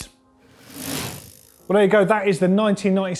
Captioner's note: bike reel sound